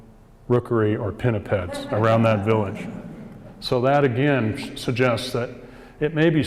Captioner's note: audience laughs